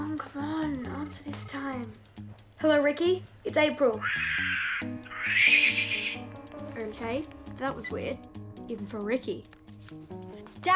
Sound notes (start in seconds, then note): 4.0 monkey screeches